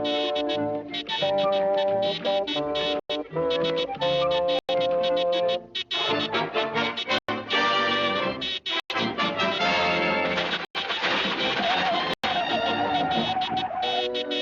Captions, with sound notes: SO, YOU WON'T WALK, EH? I'LL S-S-SHOW YOU, YOU 4-LEGGED PIECE OF HAMBURGER. [MUTTERING] GRR!